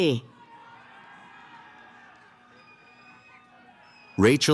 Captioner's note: cheering